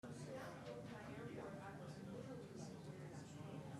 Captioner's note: people chattering